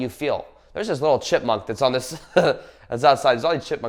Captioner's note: laughs